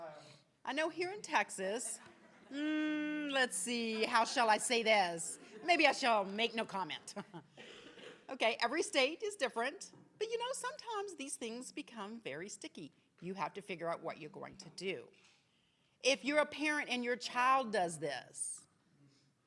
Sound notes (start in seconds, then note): 1.8 attendees laughing; 5.3 laughs